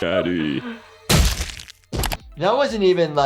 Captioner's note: brain squelches